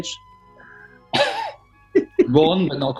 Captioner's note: chuckling